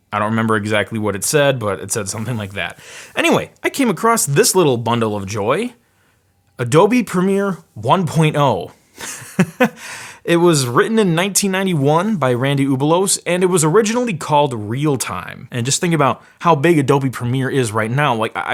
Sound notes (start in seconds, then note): 9.0 laughs